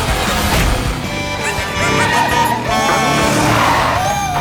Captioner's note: honking